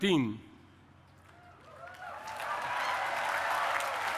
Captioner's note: cheering and applause